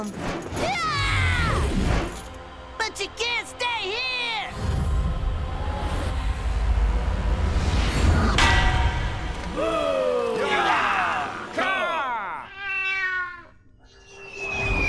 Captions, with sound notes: [screaming] But you can't stay here! [yelling]